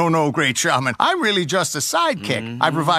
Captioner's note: Leo voices approval